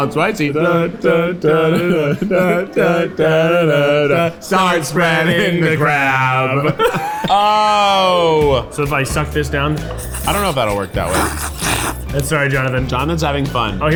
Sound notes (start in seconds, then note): 9.8 slurping